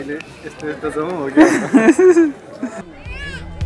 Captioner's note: laughter